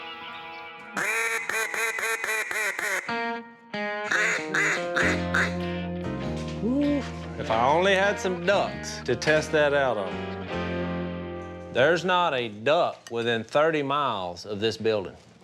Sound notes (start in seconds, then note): 0.9 duck calling